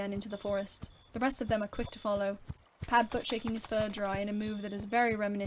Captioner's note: footsteps